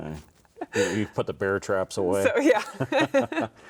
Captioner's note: both laughing